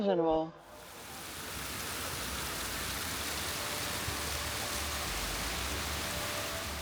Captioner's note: water running